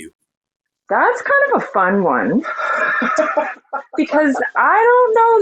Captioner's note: laughing